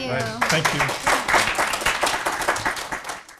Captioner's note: applause